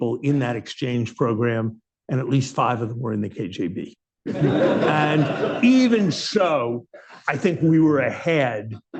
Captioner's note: laughter